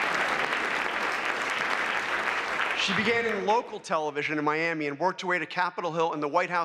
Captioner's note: applause